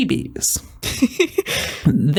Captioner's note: laugh